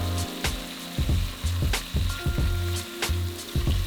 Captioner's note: mellow music; sizzling